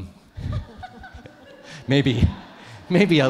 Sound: everyone laughs

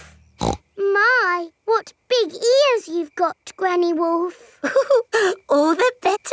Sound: snorts; chuckles

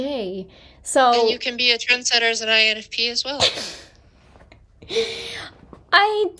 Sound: laughter

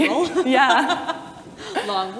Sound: laughs

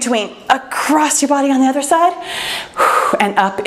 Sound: exhales

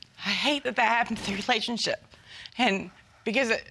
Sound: tearfully

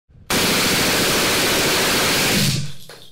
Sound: machine gun fire

